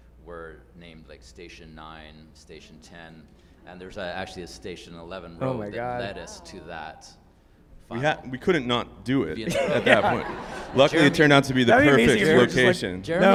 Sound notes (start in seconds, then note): 9.4 group laughs